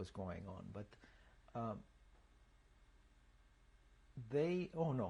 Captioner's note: pauses for 3 seconds